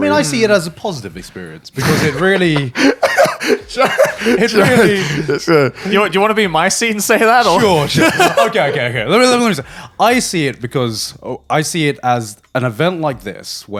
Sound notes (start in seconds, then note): 1.8 laughing; 7.2 laughs